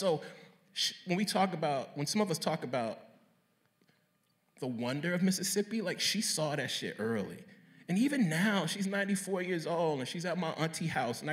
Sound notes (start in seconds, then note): none